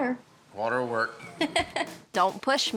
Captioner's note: laughs